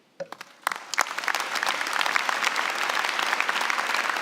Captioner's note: applause